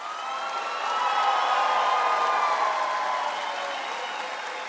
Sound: audience applauds and cheers

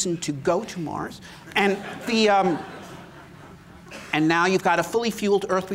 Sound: laughter

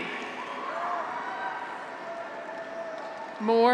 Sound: graduates cheer

